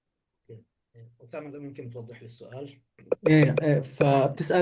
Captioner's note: speaking arabic